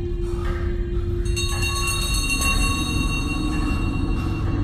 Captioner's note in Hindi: घंटी बजती